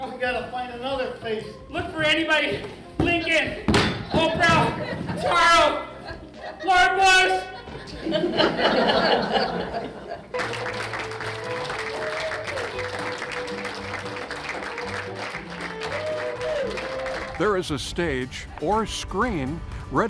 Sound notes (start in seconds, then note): 7.3 audience laughs; 10.2 audience claps